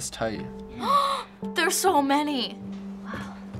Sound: gasps

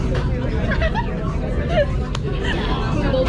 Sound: adults' conversation

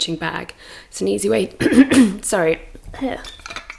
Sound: coughs

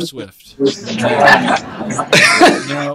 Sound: laughing

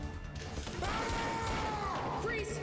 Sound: yelling

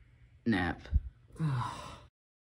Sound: sigh

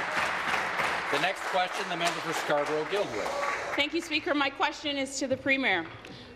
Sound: applause

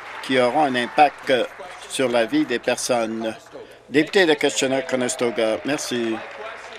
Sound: applause

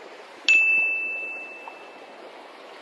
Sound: ding

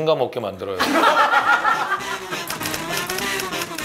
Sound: hahahaha

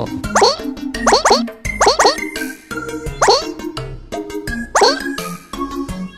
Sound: Goomba Language

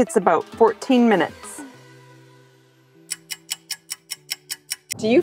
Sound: stopwatch ticking

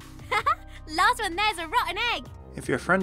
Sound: laughs

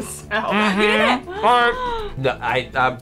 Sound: gasps

